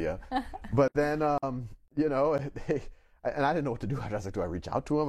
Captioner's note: laughs